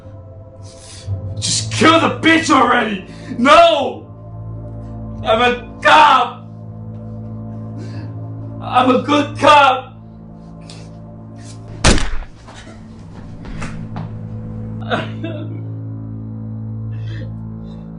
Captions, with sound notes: - Just kill the bitch already! No! I'm a cop! I'm a good cop! (booming) (crying)